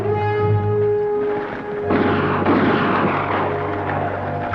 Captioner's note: Apaches howl; gun fires